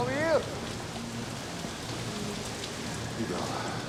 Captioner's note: rain pattering; wind whistling